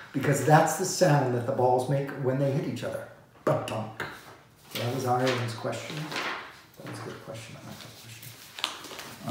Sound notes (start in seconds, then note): 3.5 speaks foreign language